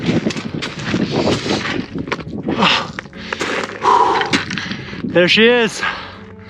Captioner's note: heavy breathing